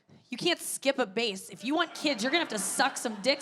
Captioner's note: audience laughing